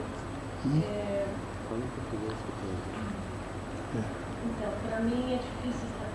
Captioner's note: speaking Portuguese